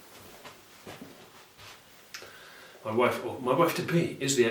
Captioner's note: clothing rustling